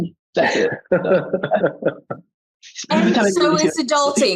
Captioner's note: panelists laughing